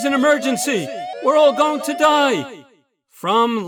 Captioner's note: sirens stop